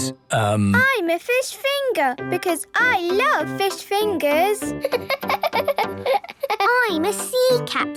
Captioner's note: laughing